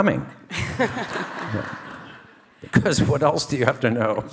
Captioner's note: audience laughing